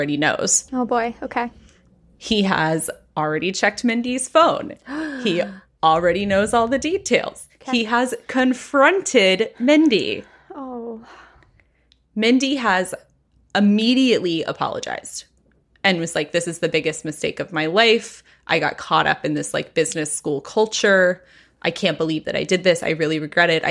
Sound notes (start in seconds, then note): 4.8 gasps